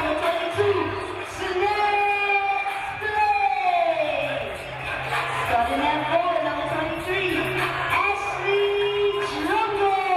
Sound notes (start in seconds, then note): none